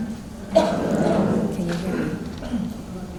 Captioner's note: crowd